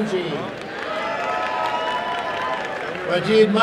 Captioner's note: applause and cheering